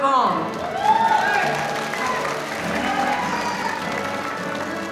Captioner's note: audience applauding